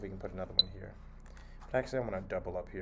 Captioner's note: beep